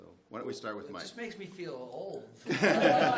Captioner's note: laughter